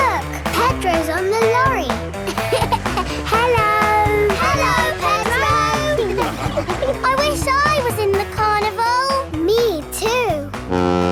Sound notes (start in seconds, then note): 2.5 laughing